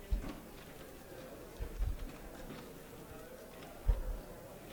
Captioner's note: chatter